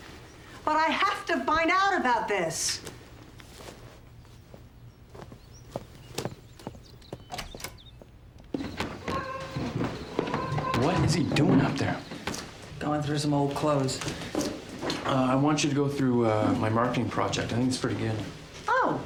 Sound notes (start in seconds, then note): 7.2 door opens; 8.3 rustling